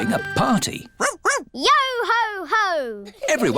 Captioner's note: barks